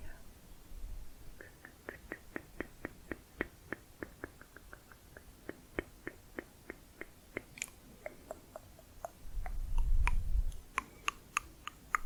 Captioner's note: tongue clicking